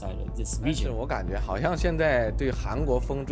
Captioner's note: soundbite of archived recording